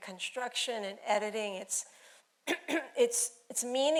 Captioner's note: throat clearing